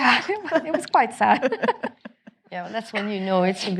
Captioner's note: all laughing